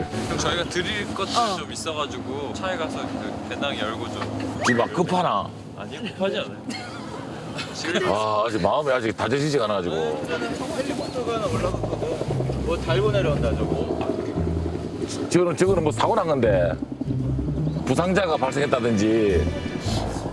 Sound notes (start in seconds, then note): 10.0 propeller sound